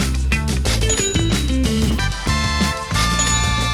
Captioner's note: register bell rings